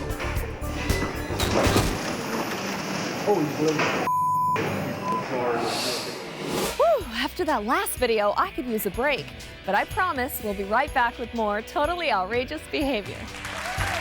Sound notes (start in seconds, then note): 0.2 upbeat music continues; 1.4 paper towels thud; 13.2 audience cheers and applauds